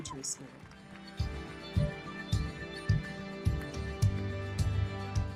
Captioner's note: audience applauding